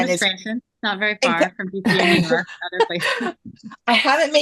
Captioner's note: laughter